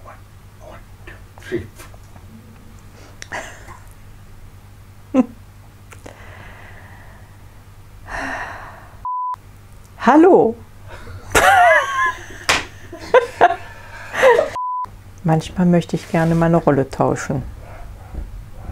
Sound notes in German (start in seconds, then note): 0.1 Aus dem Off; 2.1 lacht; 6.0 schwerer Atem; 11.1 lacht